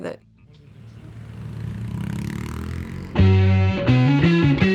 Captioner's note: motorcycle Sound Driving Off